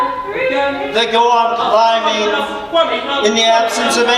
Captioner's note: mocking birds echo loudly